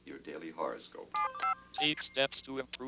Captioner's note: machine beeps